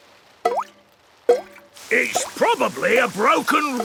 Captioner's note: water dripping